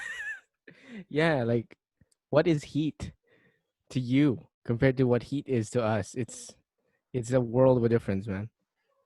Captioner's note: laughs